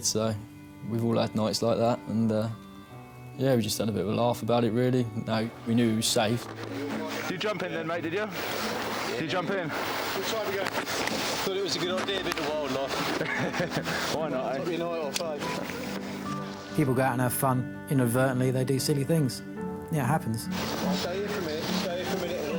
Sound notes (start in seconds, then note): 12.6 chuckles